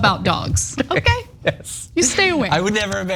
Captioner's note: laugh